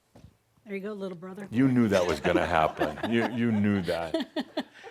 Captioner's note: they chuckle